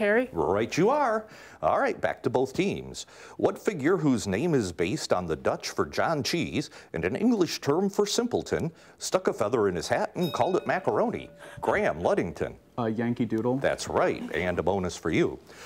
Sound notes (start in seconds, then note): 10.2 bell ringing